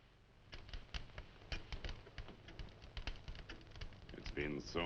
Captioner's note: fire crackling